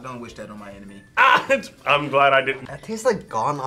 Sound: laughs

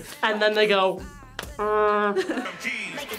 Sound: laughs

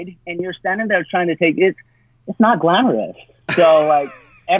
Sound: laughs

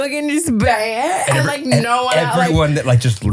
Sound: laughing

